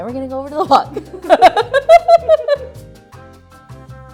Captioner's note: laughter